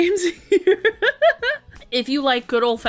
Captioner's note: laughing